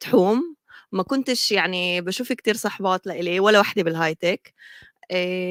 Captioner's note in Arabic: لغة أجنبية